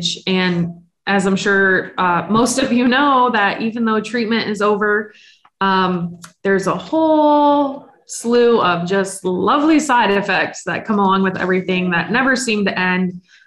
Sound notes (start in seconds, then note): none